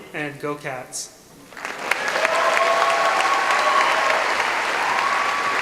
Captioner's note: applause